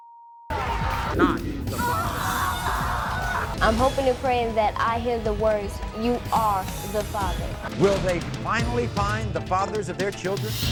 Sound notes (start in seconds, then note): 1.7 screaming